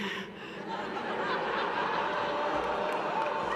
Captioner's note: laughter